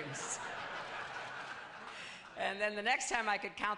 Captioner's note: laughter